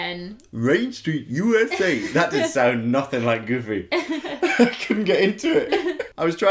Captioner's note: Imitating Goofy